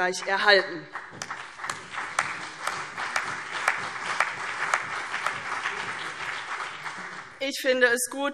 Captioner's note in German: Beifall